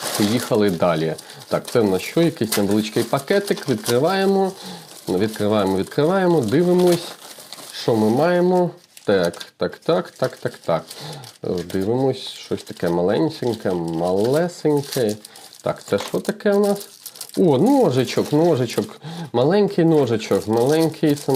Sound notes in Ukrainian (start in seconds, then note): 10.9 сопіння